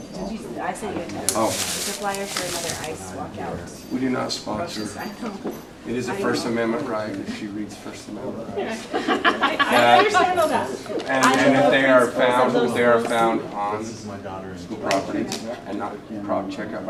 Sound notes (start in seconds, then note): 8.5 laughter